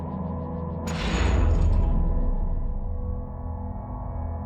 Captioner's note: loud bang